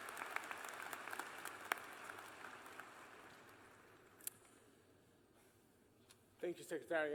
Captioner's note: applause